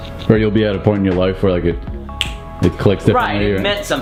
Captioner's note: snaps